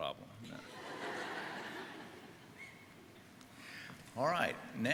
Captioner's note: audience laughing